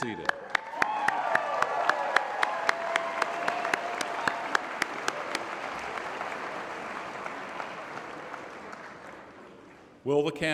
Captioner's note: applause